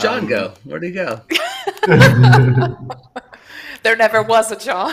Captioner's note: laughter